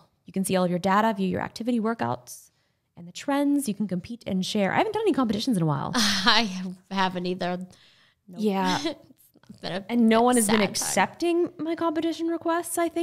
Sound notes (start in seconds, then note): 6.0 laughing